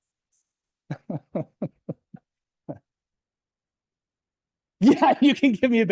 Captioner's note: laughs